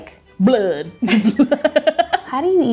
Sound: laughing

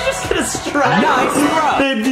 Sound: cheers and applause

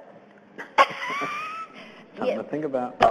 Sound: laughs

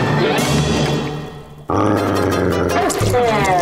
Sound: growling

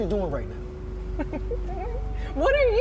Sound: chuckles

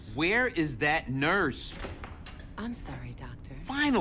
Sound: door clicks open

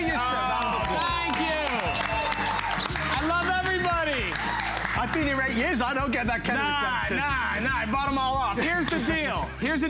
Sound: applause

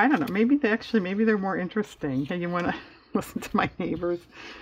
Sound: laughs

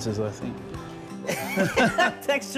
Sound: laughing

